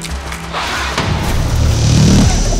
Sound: snarls

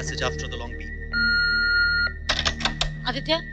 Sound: beep

